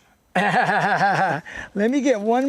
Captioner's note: laughter